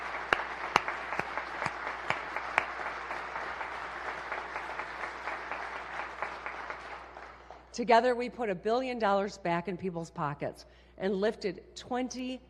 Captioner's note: applause